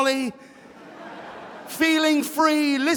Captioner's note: audience laughing